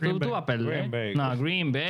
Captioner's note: speaking In Foreign Language